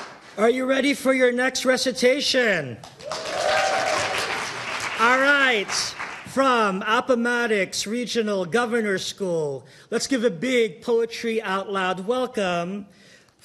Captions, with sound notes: >>Are you ready for your next recitation? (audience cheering) All right, from Appomattox Regional Governor's School, let's give a big Poetry Out Loud welcome